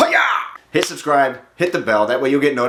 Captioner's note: slapping